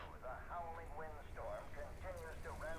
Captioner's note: radio Voice